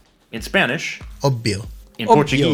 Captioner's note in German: spanisch